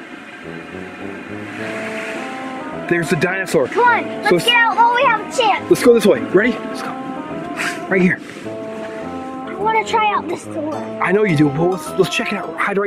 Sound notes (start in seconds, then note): 0.3 swirling music; 7.5 whispering; 8.7 quiet voice